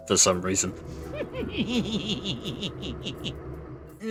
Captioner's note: nasally laughter